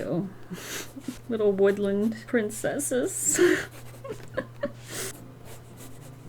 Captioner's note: laughs